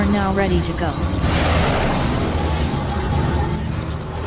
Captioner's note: thrusters boosting